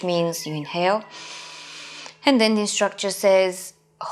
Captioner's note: inhaling